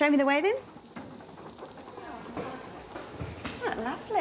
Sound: noise from crickets

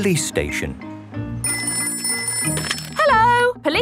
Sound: ringing

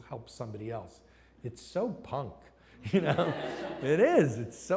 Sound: laughs

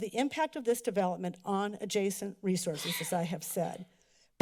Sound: sneeze

